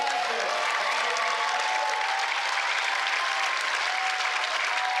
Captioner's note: cheers